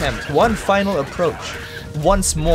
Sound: none

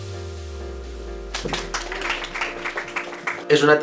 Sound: applause

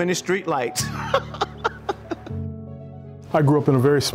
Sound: laughs

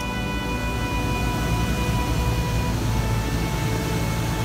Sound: air rushing

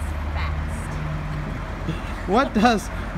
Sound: laughing

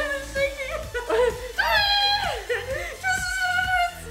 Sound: stuttering

